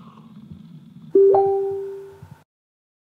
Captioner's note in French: notification facebook